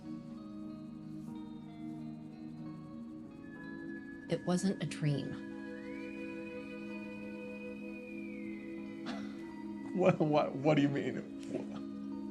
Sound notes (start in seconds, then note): 11.5 Mitch chuckles